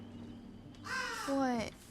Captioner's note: raven caws